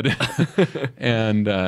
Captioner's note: both chuckle